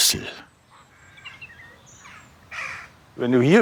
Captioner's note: cackling, birdsong